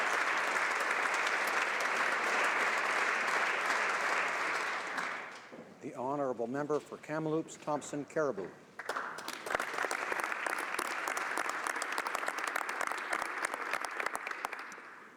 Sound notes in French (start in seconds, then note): 2.1 applaudissements